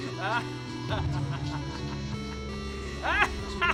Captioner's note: maniacal laughter